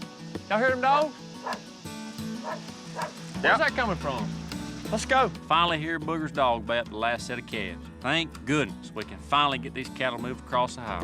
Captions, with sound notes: Y'ALL HEAR THEM DOGS? [DOG BARKING] WHERE'S THAT COMING FROM? LET'S GO! I FINALLY HEAR BOOGER'S DOG GOT THE LAST SET OF CALVES. THANK GOODNESS WE CAN FINALLY GET THESE CATTLE MOVED ACROSS THE HIGHWAY.